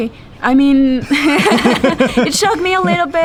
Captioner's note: laughing